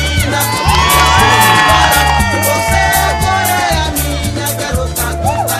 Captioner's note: crowd cheering